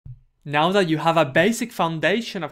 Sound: voiceover

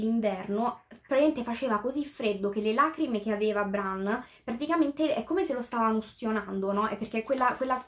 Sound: translating in italian

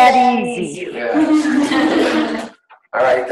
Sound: laughing

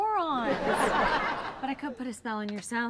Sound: audience laughs

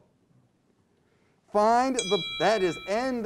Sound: timer dings

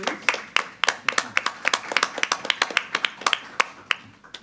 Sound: applause

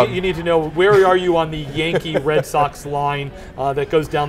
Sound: laughs

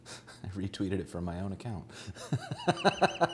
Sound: laughs

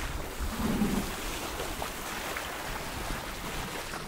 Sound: rope scrapes

